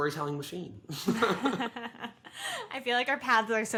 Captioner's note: both laugh